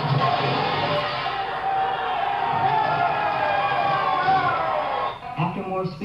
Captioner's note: cheers